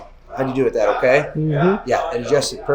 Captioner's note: hums